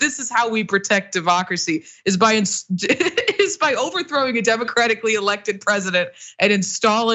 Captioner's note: laugh